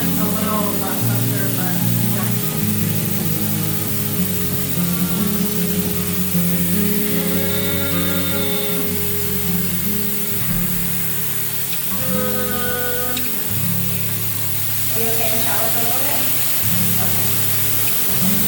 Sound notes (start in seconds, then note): 3.0 shower splashing; 12.4 moaning